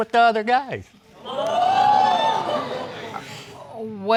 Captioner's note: audience cheers